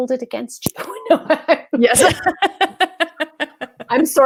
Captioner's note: laugh